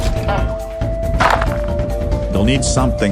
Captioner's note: ball hits wall